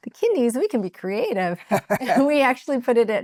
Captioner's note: laughing